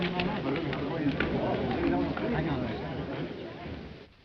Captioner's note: crowd murmurs